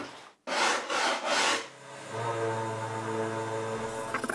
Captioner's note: machine noise